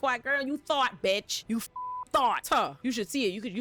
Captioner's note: beep